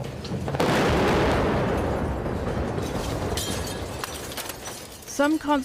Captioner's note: explosion, glass shattering